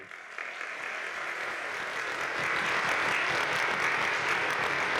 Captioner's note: audience applauding